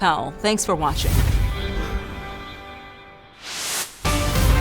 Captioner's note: air whooshes; lighthearted music; dramatic music